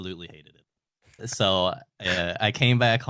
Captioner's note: laughing